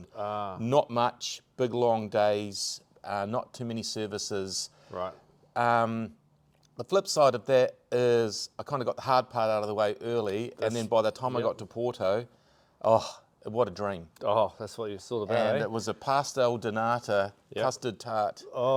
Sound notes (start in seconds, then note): 12.8 sighing